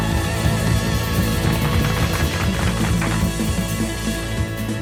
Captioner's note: crowd applauding